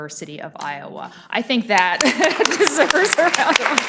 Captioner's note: audience applauding